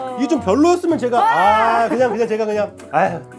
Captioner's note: ahh